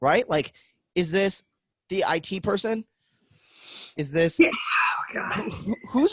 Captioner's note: laughing